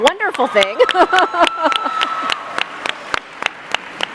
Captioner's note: applause